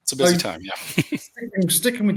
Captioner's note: laughs